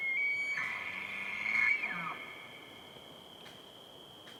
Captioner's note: elk bugles